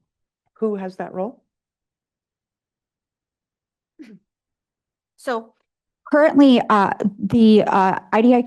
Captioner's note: clears throat